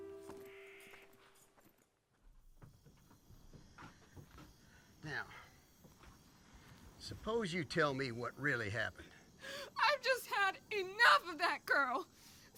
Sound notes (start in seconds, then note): 2.5 insects buzzing